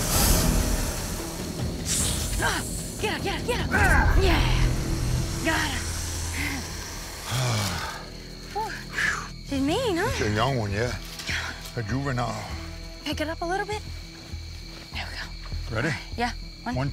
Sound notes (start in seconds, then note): 5.6 sighs